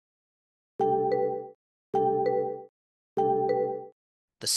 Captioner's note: notification tone